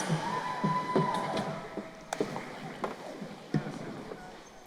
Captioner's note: crowd cheering